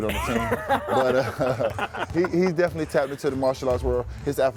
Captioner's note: laughs